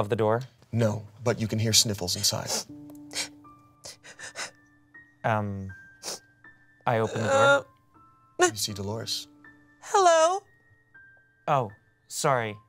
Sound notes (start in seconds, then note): 3.8 sniffles